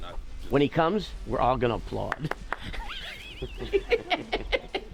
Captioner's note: laughs